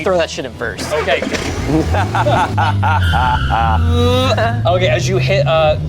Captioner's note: players laughing